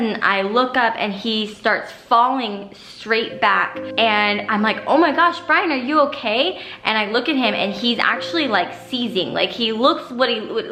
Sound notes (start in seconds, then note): none